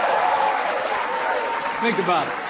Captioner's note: applause